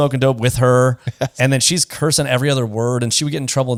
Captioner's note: laughs